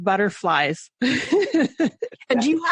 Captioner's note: laughing